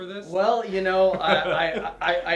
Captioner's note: laughing